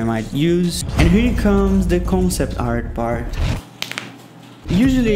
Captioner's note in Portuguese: estalando os dedos